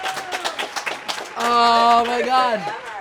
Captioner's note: group clapping